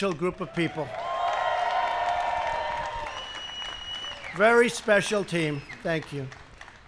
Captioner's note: applause